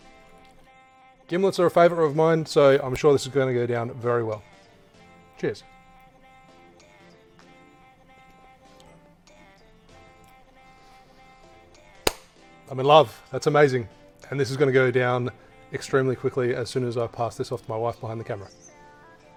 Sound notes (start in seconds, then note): 8.6 lips smacking; 11.2 claps